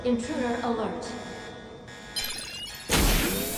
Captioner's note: alarm blaring